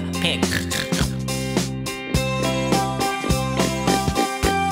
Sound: snorting

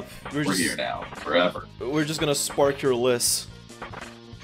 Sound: none

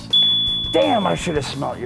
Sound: dinging noise

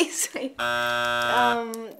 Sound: buzzer buzzes

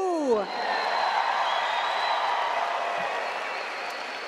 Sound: cheering

